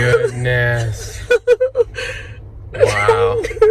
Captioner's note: chuckling